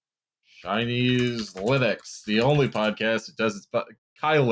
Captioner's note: keys tapping